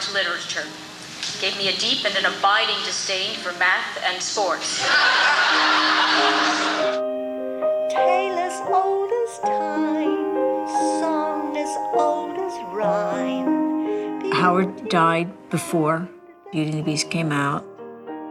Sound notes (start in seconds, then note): 4.6 audience laughing; 8.2 singing